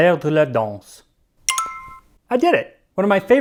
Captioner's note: ding